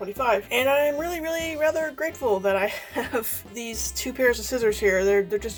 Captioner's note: laughs